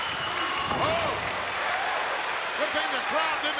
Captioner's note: audience applauding